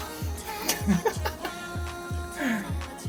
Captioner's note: laughs